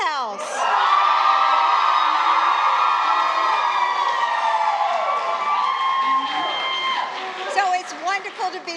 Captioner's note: applause